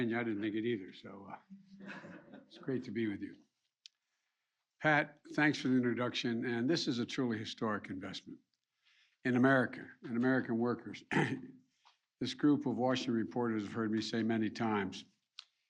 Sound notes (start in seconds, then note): 1.8 laughter